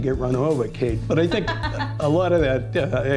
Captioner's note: laughs